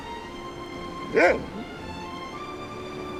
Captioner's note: mr.twixel barks